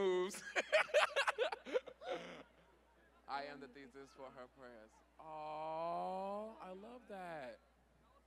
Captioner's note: laughter